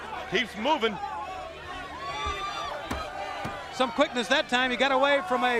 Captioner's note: crowd chatter